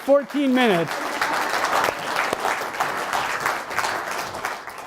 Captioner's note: audience applauds